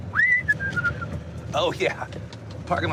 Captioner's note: whistling